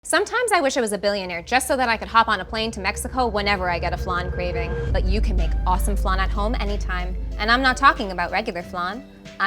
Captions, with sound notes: Sometimes I wish I was a billionaire, just so that I could hop on a plane to Mexico [aircraft sound] whenever I get a flan craving. But you can make awesome flan at home, anytime. And I'm not talking about regular flan.